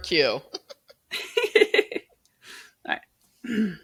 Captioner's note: both laughing